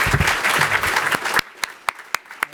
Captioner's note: applause